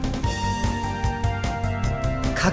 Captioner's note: shudder